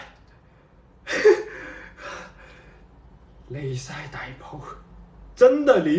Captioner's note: muttering in canto